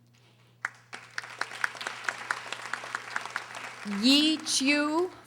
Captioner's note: audience applauding